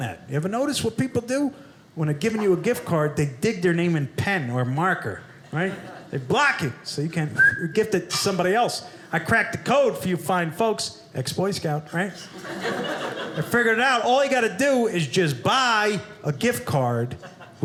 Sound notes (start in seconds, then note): 12.2 audience laughing